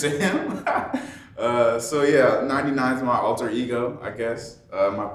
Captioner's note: laughing